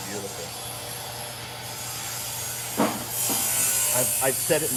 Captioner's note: metal continues grinding